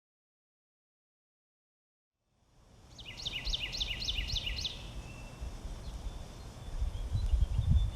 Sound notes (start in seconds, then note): 2.8 birds chirping